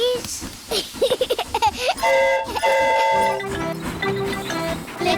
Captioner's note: giggles; train horn toots